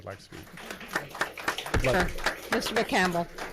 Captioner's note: clapping